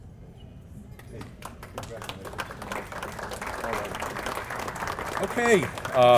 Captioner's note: applause